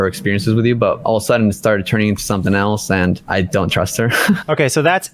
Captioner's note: laughs